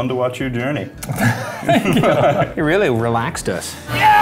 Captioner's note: all chuckling